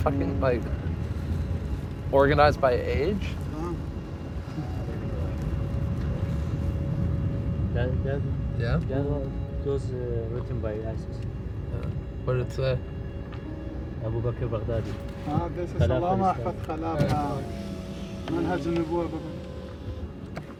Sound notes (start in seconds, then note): 7.3 speaking English; 14.0 speaking foreign language